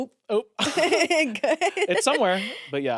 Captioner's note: everyone laughs